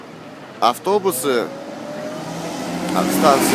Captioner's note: bus passes